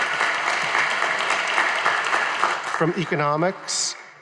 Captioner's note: audience applauding